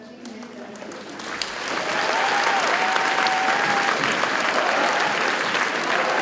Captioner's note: audience cheers and applauds